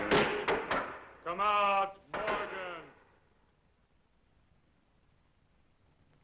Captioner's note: boards banging